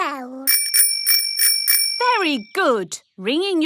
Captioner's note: rings bell